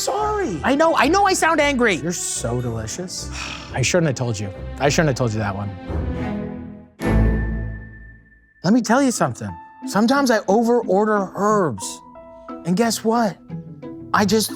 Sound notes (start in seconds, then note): 3.3 sighs